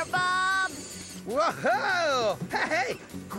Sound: hooting

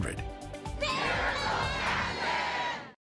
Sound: crowd

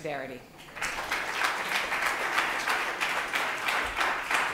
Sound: applause

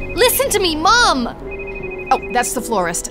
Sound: phone ringing

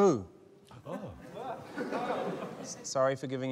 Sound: laughter

